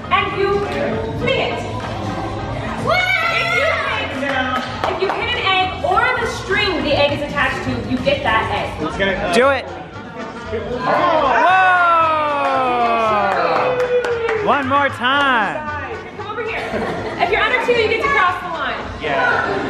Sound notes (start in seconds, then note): 3.1 child yells; 12.6 group cheers